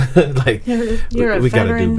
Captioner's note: laughing